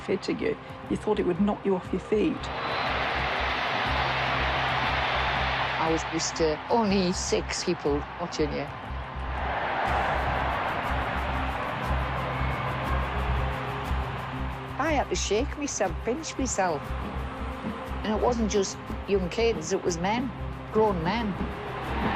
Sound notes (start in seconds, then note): 2.3 crowd cheers; 9.3 crowd cheers